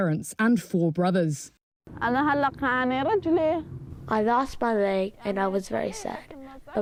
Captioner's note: through translator